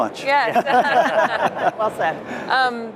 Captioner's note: laughing